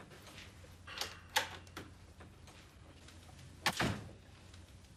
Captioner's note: door opens and closes